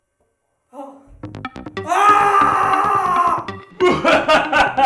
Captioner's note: Magic screams!